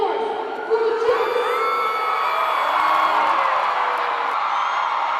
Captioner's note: crowd cheering